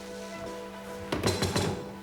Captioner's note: knocking